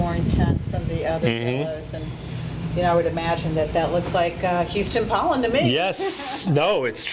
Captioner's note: laughs